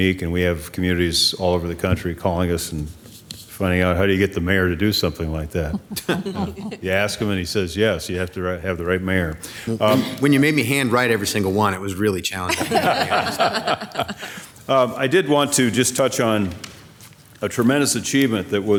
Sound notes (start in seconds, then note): 5.6 members laughing; 12.5 everyone laughing